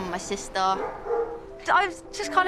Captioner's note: dog barking